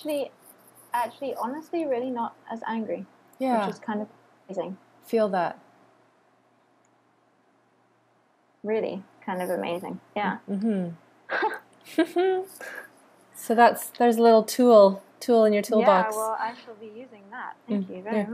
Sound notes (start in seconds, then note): 11.3 chuckling